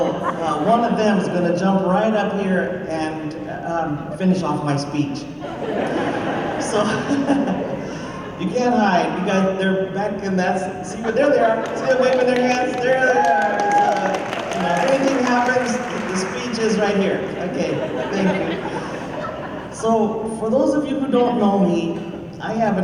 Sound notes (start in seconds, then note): 5.4 laughter